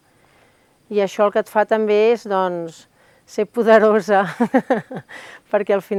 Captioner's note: laughs